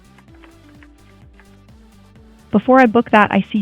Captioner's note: upbeat music; keyboard clicking